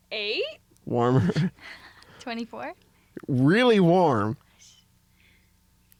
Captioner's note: laughs